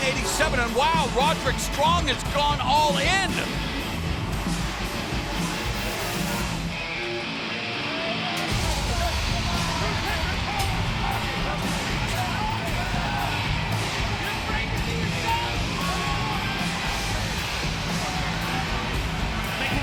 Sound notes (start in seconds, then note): 5.3 energetic rock music; 5.3 fans cheering; 16.4 energetic rock music; 16.4 fans cheering